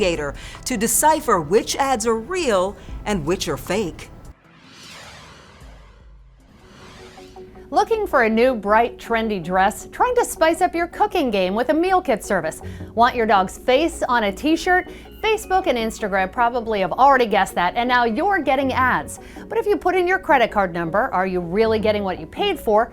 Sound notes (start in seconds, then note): 4.2 graphics whoosh